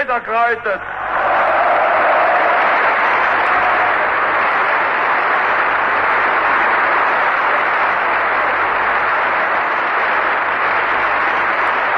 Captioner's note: applause